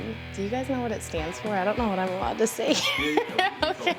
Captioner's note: laugh